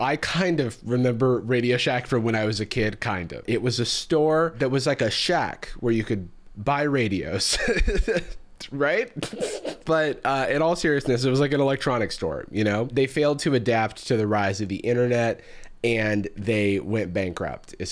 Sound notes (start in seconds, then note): 7.5 laughs; 9.2 snickers